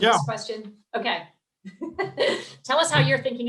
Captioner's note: laughs